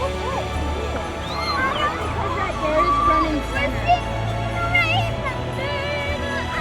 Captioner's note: children chattering happily